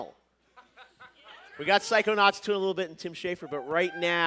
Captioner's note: cheers and applause